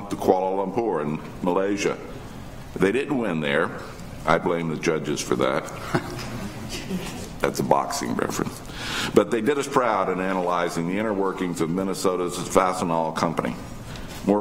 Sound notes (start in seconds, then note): 5.7 audience chuckles